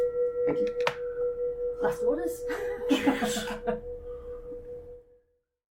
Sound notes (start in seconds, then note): 2.6 laughs